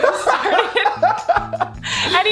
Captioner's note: laughing